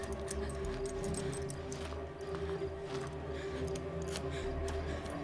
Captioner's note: intense music; keys jangling